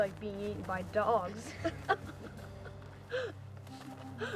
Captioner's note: laughter